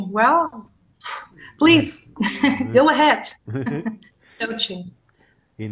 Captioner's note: chuckles